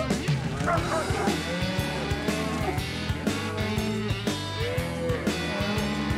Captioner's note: cows moo; dog barking